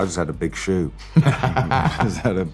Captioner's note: laughs